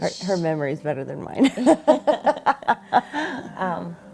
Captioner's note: laugh